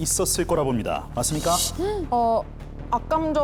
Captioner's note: glowering sound effect